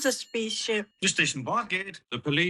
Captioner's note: phone rings